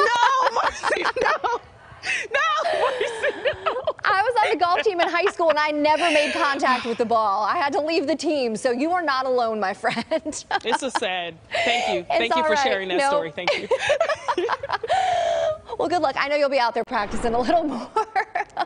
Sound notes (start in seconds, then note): 14.9 laughter